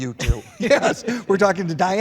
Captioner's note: laughter